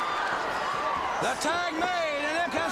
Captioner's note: crowd cheering